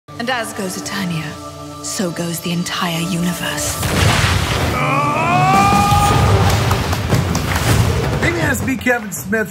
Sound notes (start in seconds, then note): 5.1 yelling; 5.6 clapping